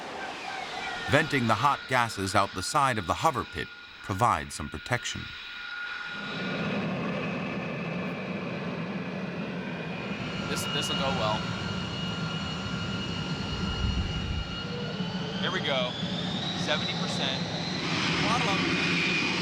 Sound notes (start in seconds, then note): 5.8 engine roaring